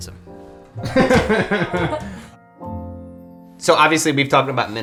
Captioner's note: laughter